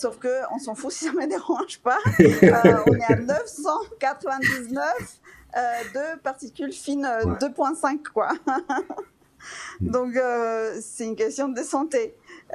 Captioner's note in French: rires